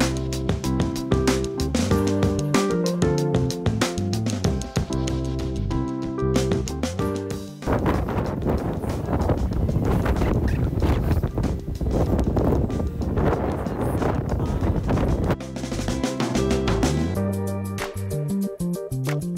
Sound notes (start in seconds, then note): 11.5 wind sounds; 15.1 music & wind sounds lol